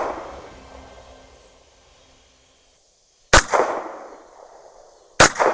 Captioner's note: gunshot